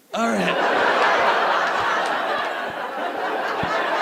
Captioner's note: audience laughing